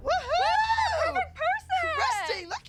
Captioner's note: cheering